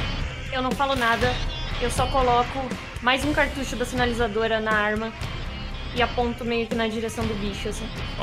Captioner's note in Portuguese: none